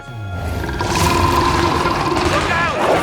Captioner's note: Steenium roars